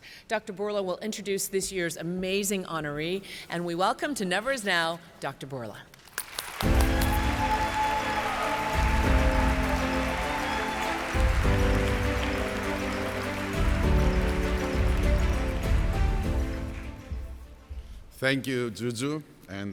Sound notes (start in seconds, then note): 6.7 audience applauds